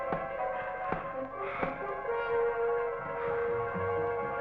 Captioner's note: scissors tapping